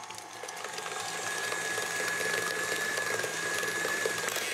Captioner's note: quiet whirring